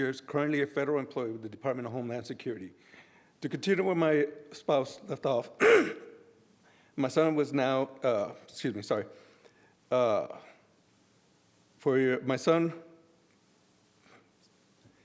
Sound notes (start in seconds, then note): 5.6 clears throat